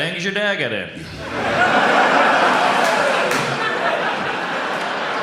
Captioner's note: audience laughs